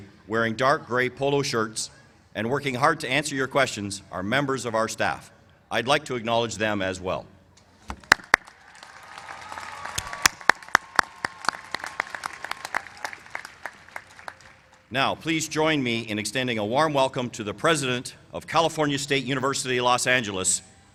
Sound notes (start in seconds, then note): 8.0 applause